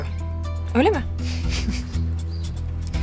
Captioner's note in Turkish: Gülme sesi